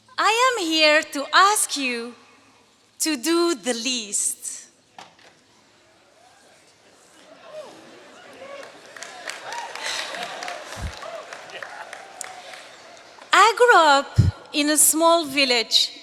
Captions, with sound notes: I am here to ask you to do the least. [LAUGHING] I grew up in a small village in